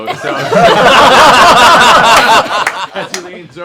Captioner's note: laughter